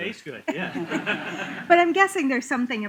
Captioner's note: laughter